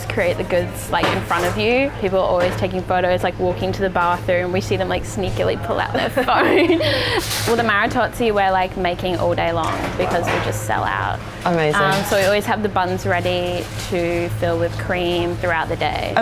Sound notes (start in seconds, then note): 6.0 laughing